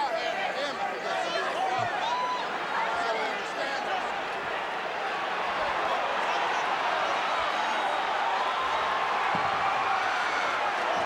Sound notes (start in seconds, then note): 7.8 crowd cheers